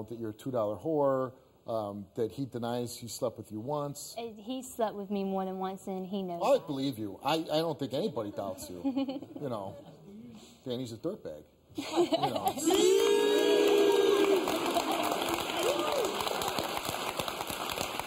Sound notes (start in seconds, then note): 8.7 laughing; 11.8 laughing; 14.6 audience applauding